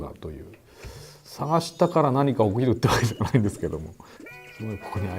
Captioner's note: laughs